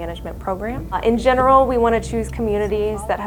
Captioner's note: driving noises